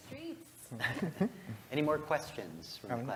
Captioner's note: laugh